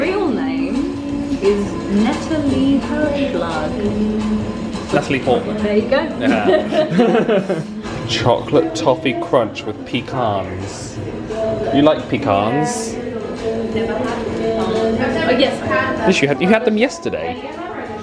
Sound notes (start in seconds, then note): 6.2 chuckling